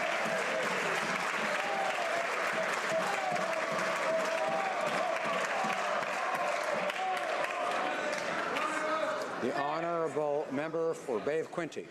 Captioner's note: applause